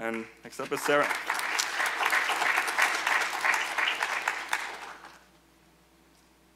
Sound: applause

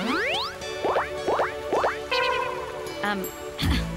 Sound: popping sound

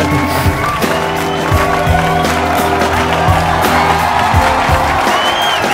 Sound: applauses

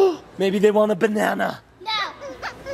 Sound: gasps

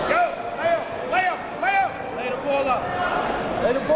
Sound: coaches yelling

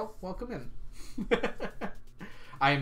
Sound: laughs

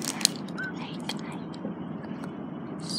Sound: whispers

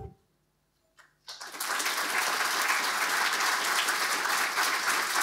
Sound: audience applauding

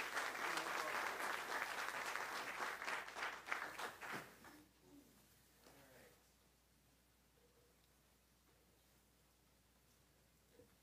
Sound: applause

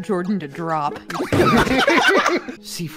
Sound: laughter

